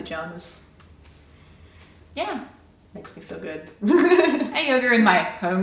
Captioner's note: laughs